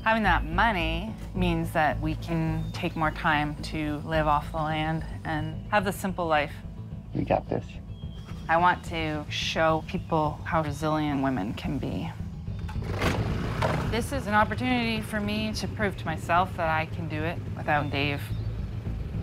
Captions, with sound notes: Having that money means that we can take more time to live off the land and have the simple life. - We got this. - I want to show people how resilient women can be. [engine revs] This is an opportunity for me to prove to myself that I can do it without Dave.